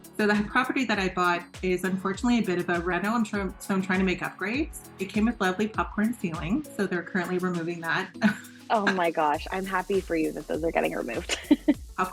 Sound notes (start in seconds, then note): 8.4 laughs; 11.2 laughs